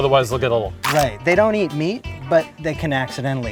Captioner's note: crunch sound effect plays